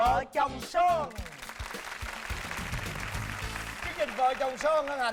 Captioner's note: applause